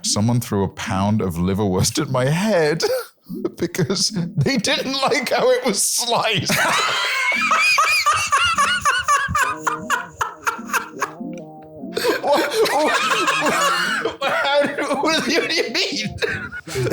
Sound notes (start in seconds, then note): 12.2 stammering